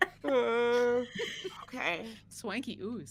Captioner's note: all laughing